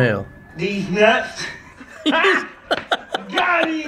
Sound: both laugh

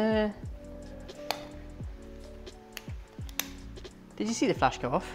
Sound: camera clicking

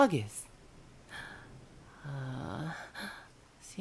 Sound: sigh

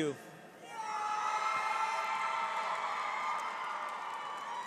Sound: audience cheers

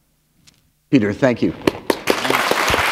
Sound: applause

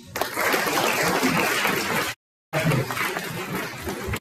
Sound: audience applauding

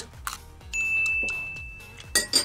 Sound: bell rings

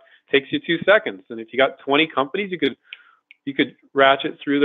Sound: fingers snapping

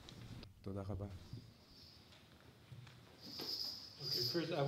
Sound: non-english speech

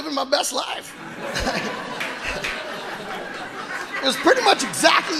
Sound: audience laughing

